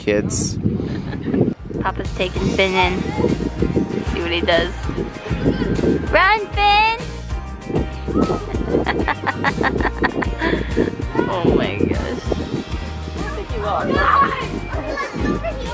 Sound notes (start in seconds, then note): 8.3 laughs